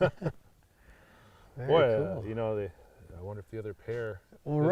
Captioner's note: both chuckling